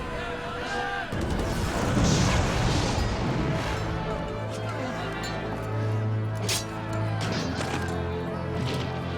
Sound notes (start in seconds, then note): 1.5 woosh; 6.9 thud